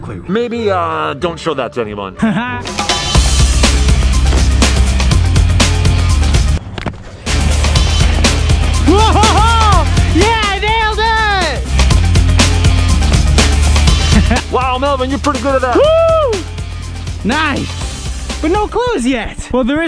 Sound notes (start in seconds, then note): 2.7 upbeat music; 12.2 upbeat music; 16.1 yelling